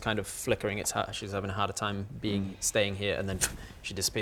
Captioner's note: pff